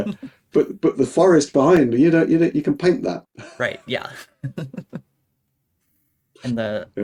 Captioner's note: laughing